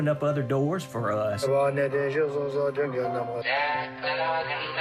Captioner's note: chanting in native language; second man singing in native language